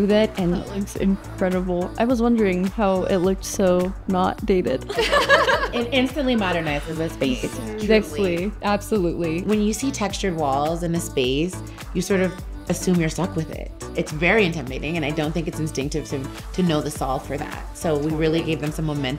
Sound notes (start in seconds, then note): 4.9 laughing